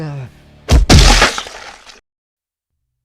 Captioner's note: heavy hit with bones cracking